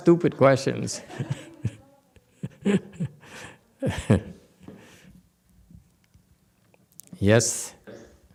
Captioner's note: laughs